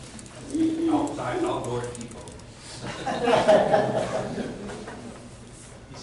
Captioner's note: laughter